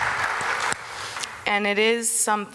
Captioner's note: audience applause